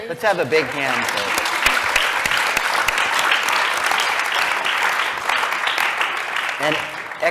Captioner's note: applause